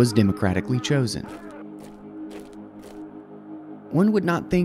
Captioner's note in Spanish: pies golpeando